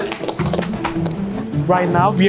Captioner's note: hands clapping